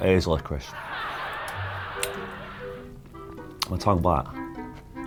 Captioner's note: audience laughing